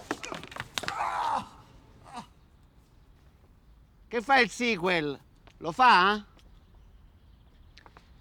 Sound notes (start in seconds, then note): 0.8 moans in pain